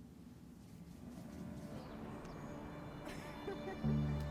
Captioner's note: calm music; birds chirping; laughter